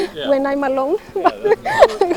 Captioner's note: laughs